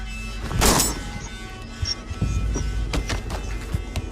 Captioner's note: gun loading; gunshot firing